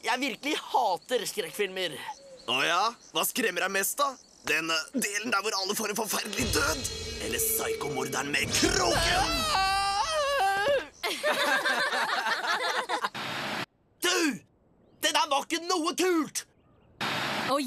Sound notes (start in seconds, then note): 8.5 screaming; 10.8 all laughing